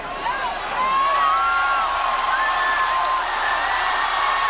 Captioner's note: cheering